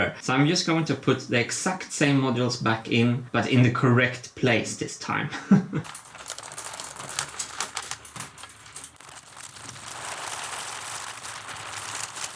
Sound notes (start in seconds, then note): 5.2 chuckles; 5.9 marbles rolling